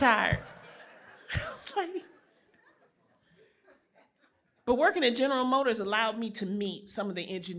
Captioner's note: laughter